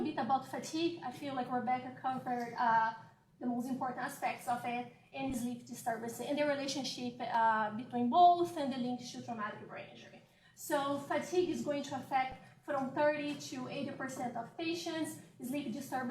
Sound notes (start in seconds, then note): 3.7 off microphone